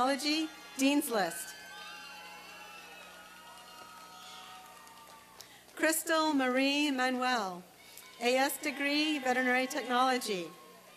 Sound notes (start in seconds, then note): 1.5 applause and cheering; 10.5 applause and cheering